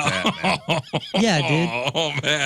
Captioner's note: laughing